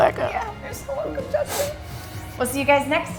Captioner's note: sobs